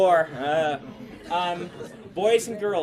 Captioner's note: students laugh